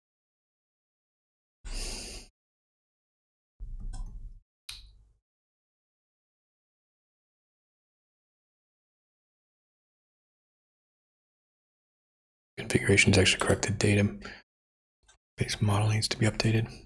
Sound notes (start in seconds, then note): 6.6 silence